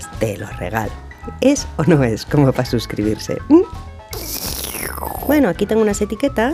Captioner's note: sips coffee